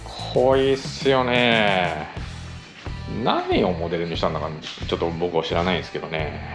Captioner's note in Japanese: 鼻息